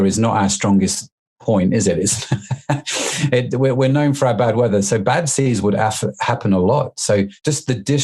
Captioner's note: laughs